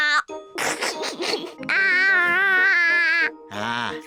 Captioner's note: giggles